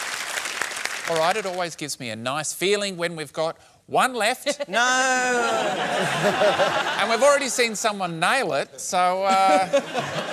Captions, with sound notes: Alright, it always gives me a nice feeling when we've got one left... No! (LAUGHTER) ..and we've already seen someone nail it. So, uh...